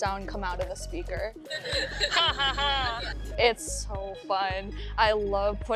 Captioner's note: laughing